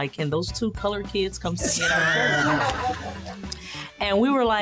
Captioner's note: laughter